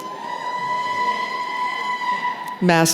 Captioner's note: cheering